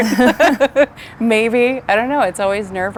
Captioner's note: both laughing